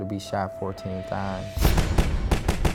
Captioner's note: gun Shots